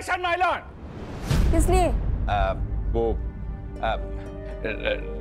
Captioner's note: stammers